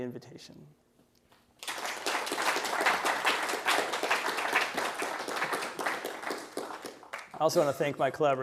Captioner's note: applause